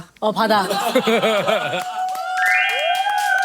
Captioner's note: cheers and applause